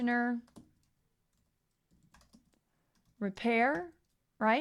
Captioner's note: keyboard clicking